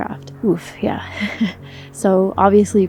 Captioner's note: chuckles